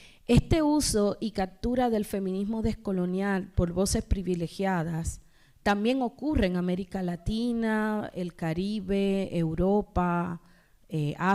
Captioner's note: speaking spanish